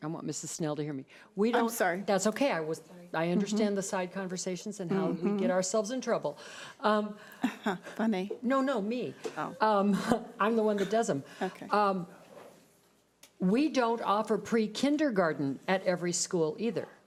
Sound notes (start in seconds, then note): 7.5 laughs